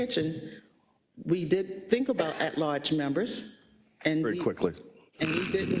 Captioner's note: cough